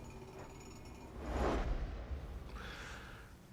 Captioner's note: whoosh transition sound